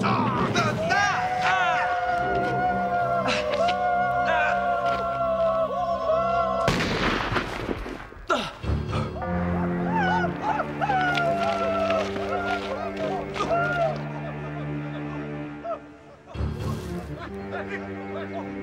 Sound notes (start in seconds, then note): 1.5 shouting